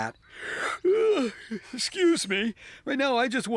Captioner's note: yawning